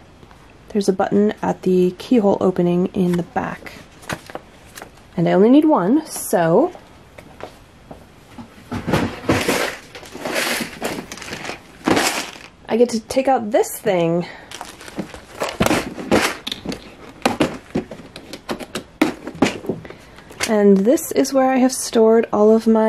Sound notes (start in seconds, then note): 8.4 offscreen rummaging